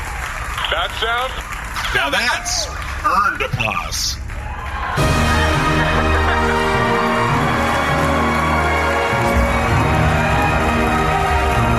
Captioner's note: audience goes wild